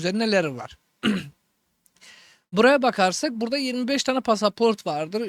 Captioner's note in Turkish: boğazını temizler